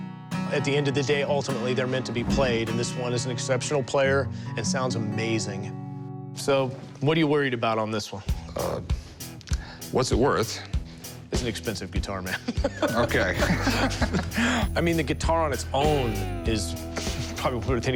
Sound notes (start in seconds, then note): 12.3 laughs